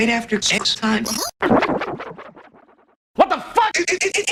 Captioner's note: Blue barks "uh-huh", distorted